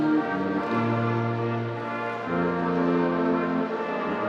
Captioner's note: none